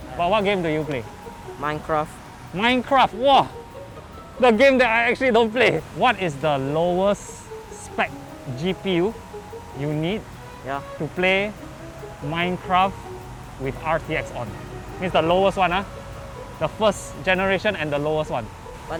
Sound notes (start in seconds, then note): none